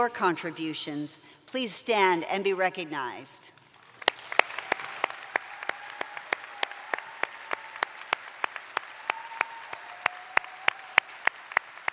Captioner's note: cheers and applause